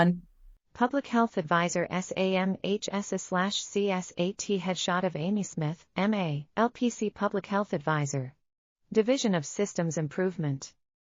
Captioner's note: audio Description being read